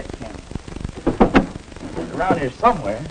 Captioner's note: drawer shuts